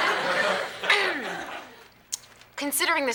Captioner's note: Morgan clearing throat